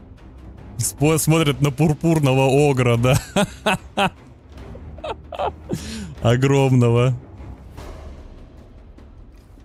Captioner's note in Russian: смех